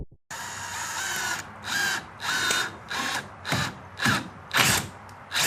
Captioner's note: drill whirring